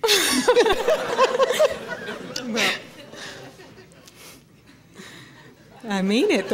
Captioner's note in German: Lachen